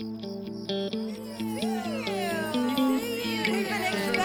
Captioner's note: gentle upbeat music; daughters cheering